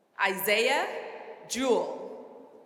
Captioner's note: none